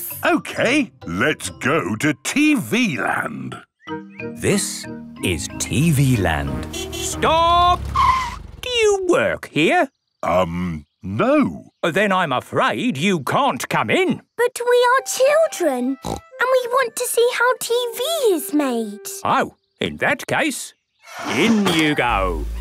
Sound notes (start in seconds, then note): 6.2 tires screeching